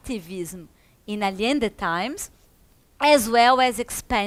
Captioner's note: speaks in foreign language